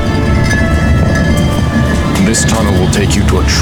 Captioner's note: stone scrapes